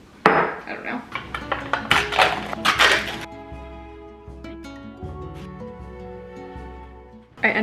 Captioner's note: plastic crinkling; mellow music